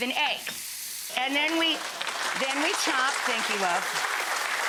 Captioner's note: audience clapping